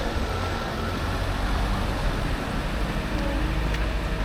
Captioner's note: people chattering